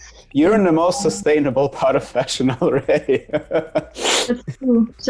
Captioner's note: laughs